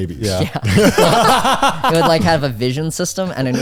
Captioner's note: all laughing